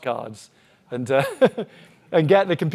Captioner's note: chuckles